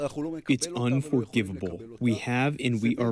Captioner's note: through translator